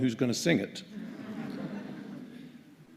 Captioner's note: laughter